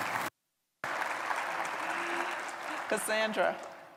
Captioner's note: applause